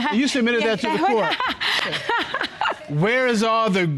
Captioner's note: laughing